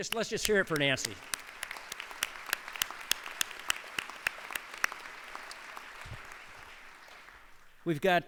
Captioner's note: applause